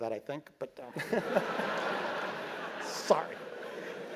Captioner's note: laugh